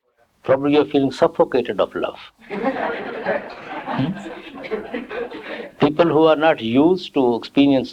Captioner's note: laughter